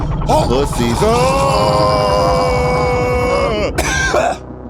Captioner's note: yells